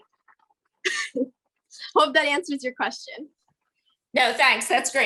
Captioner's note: laughs